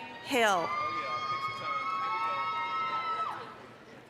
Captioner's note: applause, cheering